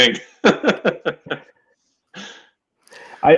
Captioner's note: laughing